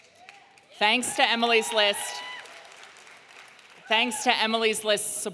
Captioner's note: audience cheering